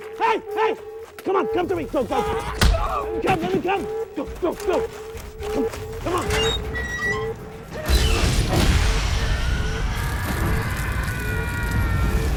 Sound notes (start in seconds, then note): 2.1 man screaming; 5.9 door creaking; 9.2 Viggo screaming